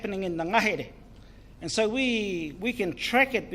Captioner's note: speaks in foreign language